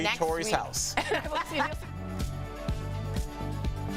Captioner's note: laughter